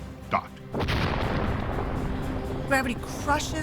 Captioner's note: explosion roars